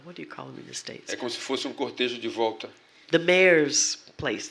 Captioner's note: speaking portuguese